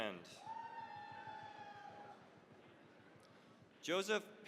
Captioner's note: cheering, applause